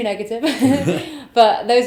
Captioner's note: laughs